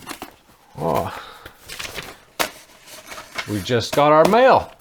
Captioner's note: paper crumpling